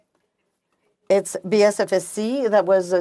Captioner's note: speaking french